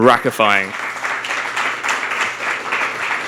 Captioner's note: applause